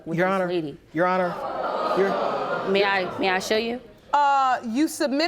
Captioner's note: audience gasping